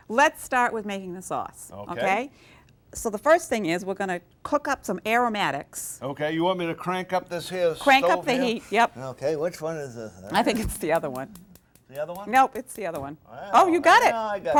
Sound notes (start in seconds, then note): 10.3 burner clicking